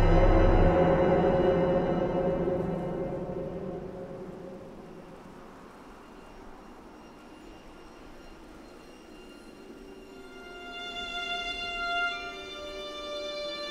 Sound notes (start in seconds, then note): 0.0 somber music; 3.0 wind whistling softly; 9.5 somber violin music